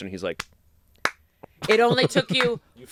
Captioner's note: applauds